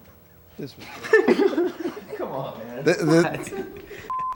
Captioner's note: group laughs